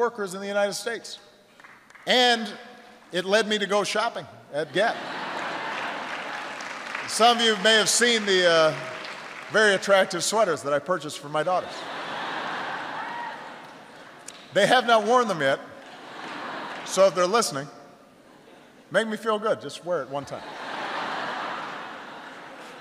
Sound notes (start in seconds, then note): 4.7 laughter and applause; 11.6 laughter